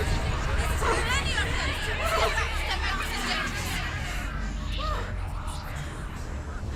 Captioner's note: echoing; whimpering